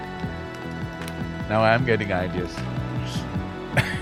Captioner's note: laughs